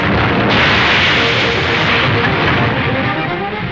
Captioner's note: metal crashing